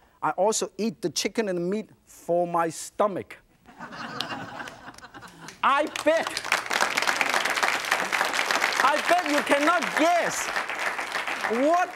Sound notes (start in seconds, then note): 3.7 audience laughs; 6.5 audience applauds